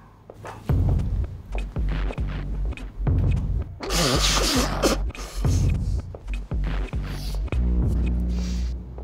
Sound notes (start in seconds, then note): 3.8 Taylor blowing nose